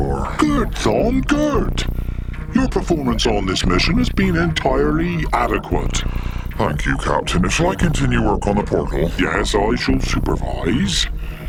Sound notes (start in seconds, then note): 6.8 sighs